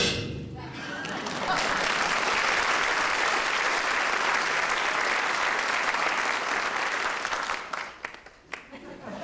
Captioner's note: applause